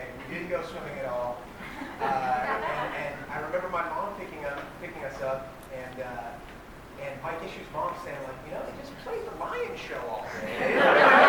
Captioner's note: laughter